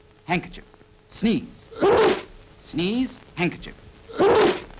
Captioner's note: achoo